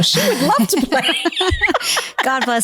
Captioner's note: both laughing